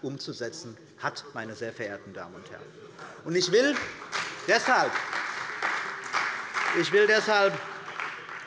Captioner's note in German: Beifall bei der CDU und dem BÜNDNIS 90/DIE GRÜNEN